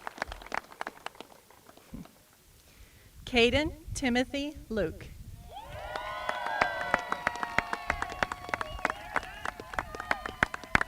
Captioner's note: applause